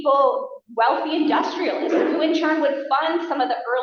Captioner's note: laughter